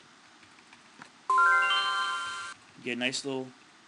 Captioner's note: chime sounds